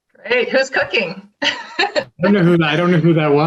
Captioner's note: laughing